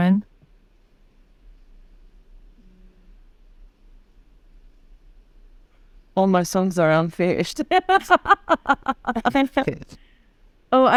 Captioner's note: laughs